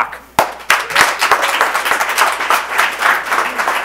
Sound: people clapping

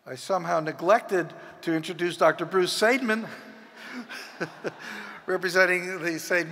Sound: laughs

